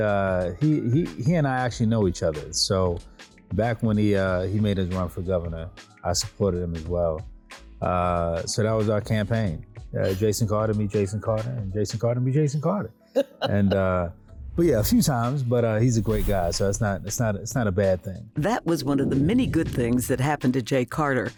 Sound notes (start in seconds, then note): 13.1 laughing